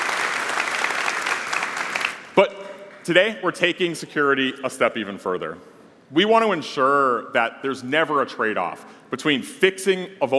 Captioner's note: applause